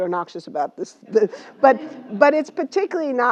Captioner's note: laugh